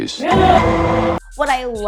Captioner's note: banging